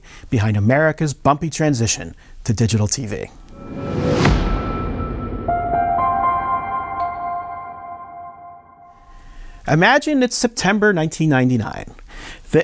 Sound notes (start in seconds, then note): 3.4 dramatic music; 4.1 logo thudding; 5.6 tranquil music